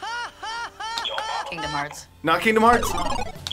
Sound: character laughs; buzzer; buzzer

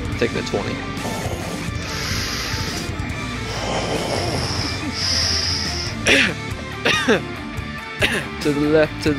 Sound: coughing; breathing noises

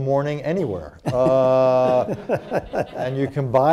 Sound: laughter

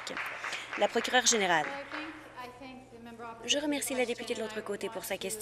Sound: applause

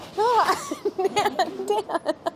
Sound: laughing

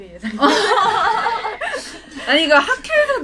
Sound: laughing sound

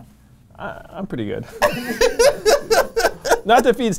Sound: laughs

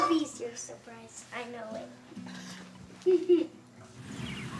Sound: chuckles

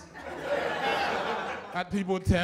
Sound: laughter

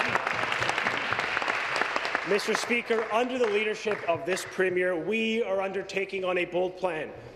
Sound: applause

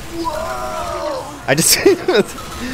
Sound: laughs

